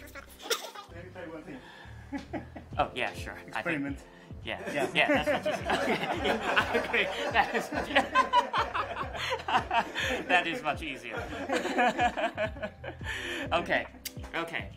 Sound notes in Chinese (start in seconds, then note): 4.6 笑聲不斷